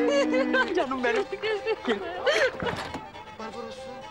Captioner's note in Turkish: Gülüyorlar; Gülüyor